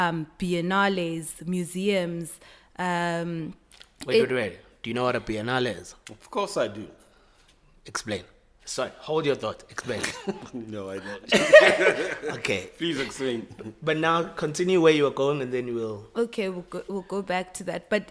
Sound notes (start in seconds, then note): 10.8 laughs